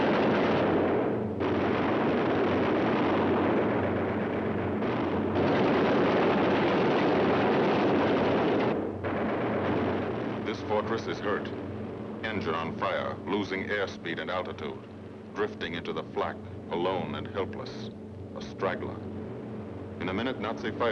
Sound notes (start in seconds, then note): 2.6 gunfire